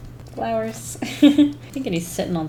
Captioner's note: laughs